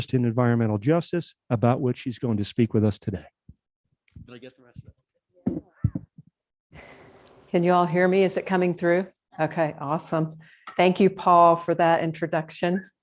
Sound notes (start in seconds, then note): 4.0 quietly; 5.4 microphone bumps on something